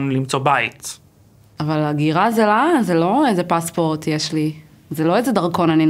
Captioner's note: Hebrew